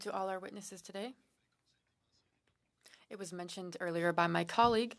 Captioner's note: speaking French